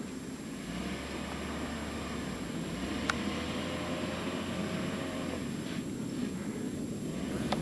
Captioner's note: engine sounds from jeeps and talking in background